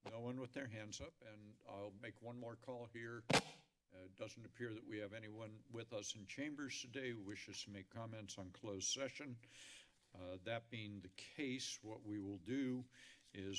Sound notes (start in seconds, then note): 3.3 mic thump